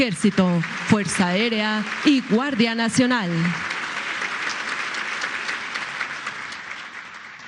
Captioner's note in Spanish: aplausos